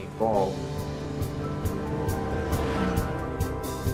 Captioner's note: engine roaring